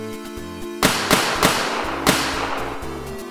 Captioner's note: gunshots